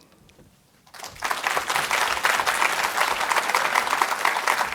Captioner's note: audience applauding